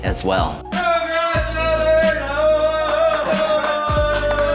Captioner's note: chef shouting; invitees ululating, clapping and laughing